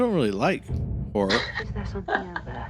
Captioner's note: laughs soflty